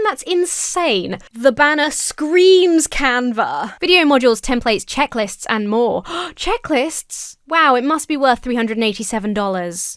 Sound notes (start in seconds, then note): 6.0 gasps